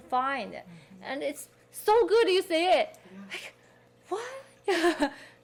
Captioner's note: laughing